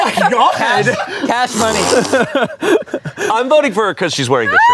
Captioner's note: everyone laughs